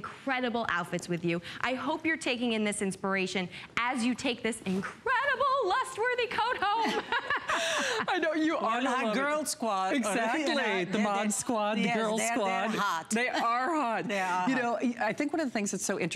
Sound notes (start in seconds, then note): 6.5 laughter